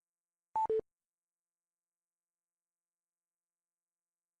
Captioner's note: electronic beeping